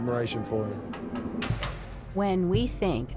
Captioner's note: machinery clanks